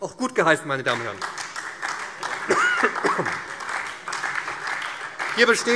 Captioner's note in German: Beifall SPD